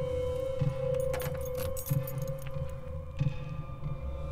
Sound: keys jingle

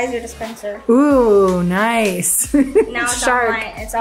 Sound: laughing

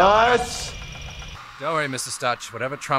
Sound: machine whirling

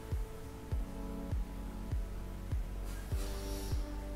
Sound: blowing; breathing~~~~~

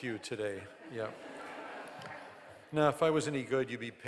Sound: audience laughing

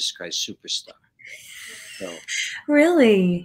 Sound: laughs

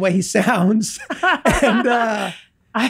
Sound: laughs

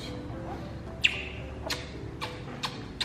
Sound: kisses

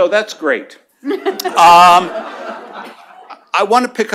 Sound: laughter

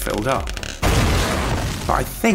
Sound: boom

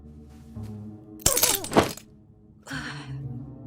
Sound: glass cracking

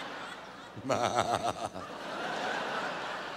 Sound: laughs

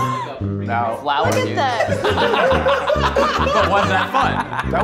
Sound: chattering

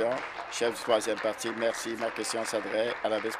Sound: applause

